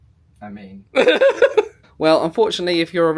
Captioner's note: laughs